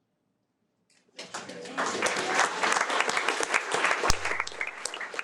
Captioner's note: audience applauding